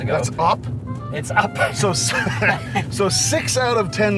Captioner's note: laughs